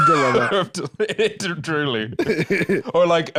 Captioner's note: laughing